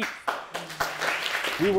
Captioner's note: audience applauding